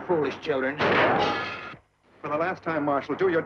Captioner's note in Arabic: انفجارات البندقية